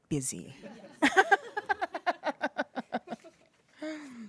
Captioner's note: people laughing